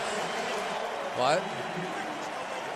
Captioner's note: pa announcement